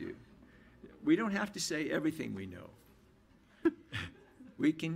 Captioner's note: laughs